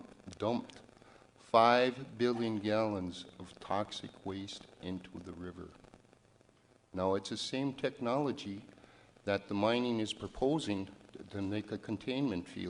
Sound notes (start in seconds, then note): none